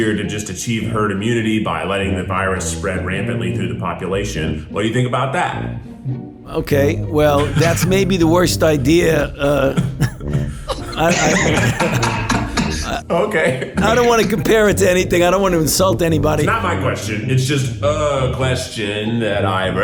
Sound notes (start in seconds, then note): 9.4 both laughing